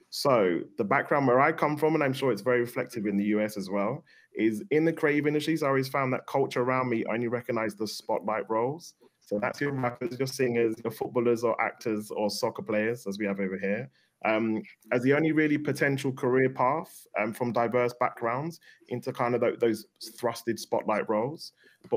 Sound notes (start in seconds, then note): 9.3 audio distorts